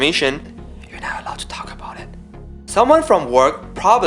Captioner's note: whisper